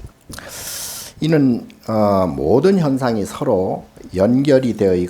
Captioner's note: speaking Korean